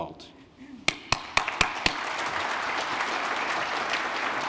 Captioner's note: applause